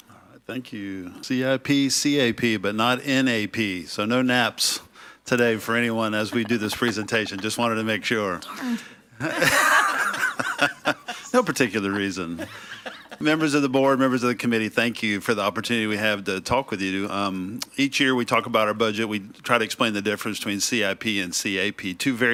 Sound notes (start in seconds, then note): 9.2 laughs